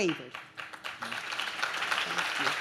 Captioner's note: audience claps